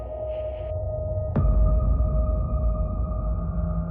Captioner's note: low rumble